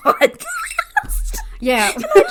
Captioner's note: laugh